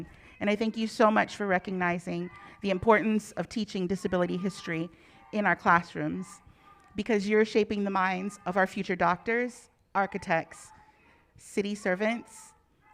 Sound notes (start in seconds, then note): none